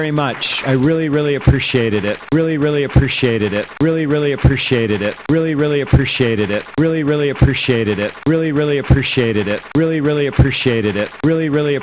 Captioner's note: audience applauds